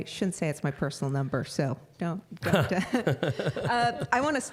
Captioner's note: scattered laughing